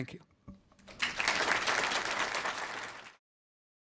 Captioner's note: applause